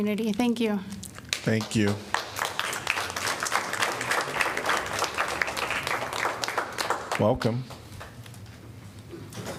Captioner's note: applause